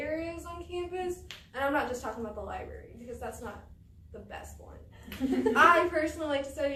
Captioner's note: all laugh